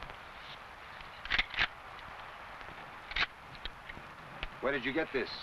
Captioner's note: rifle cocking